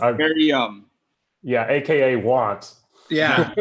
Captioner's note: laughs